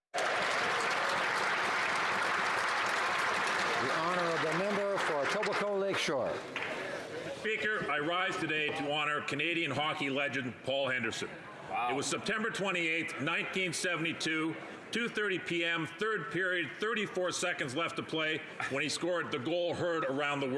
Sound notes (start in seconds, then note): 2.3 cheering; 4.8 some Applause